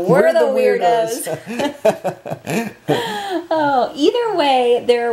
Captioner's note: laughter